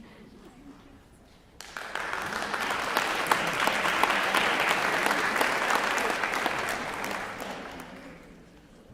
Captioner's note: applause